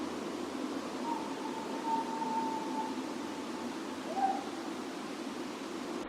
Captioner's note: creature continues howling